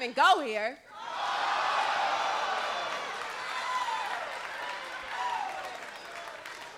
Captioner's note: crowd exclaims